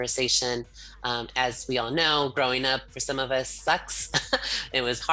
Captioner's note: laughs